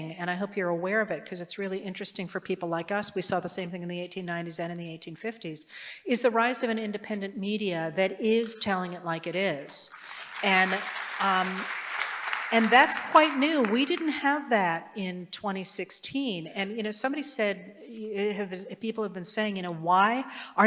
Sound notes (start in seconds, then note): 9.9 applause